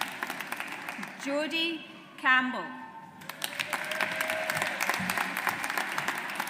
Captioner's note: audience applauds